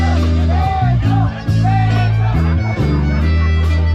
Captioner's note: crowd chanting "kiss her"